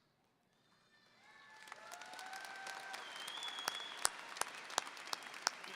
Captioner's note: audience applauding